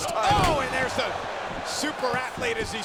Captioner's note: body thudding